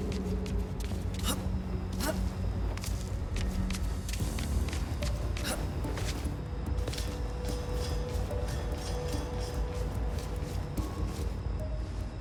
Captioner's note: grunting